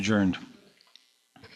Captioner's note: speaking in French